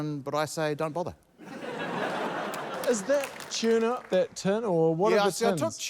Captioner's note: laughter